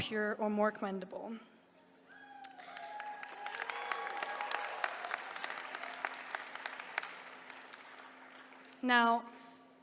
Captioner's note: applause